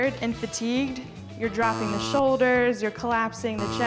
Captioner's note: buzzer buzzing